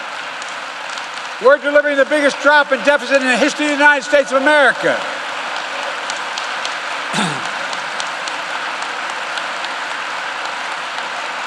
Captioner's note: applause